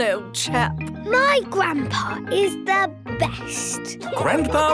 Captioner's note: laughing